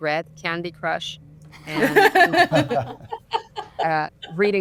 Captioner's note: group laughs